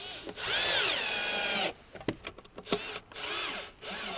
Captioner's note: drilling